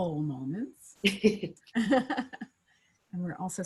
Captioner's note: chuckling